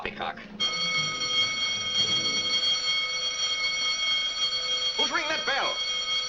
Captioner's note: alarm bell rings